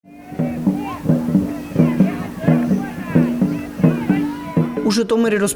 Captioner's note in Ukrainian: вигуки вболівальників